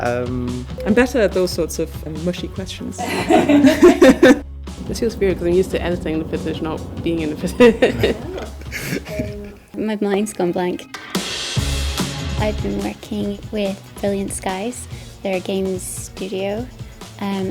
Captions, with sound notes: I'm better at those sorts of mushy questions [Laughs] It feels weird cause I'm used to editing the footage, not being in the footage My mind's gone blank I've been working with Brilliant Skies. They're a games studio